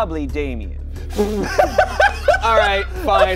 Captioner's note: laughing